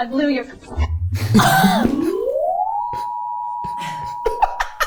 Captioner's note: machine whirring